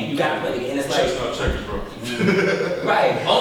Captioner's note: laughs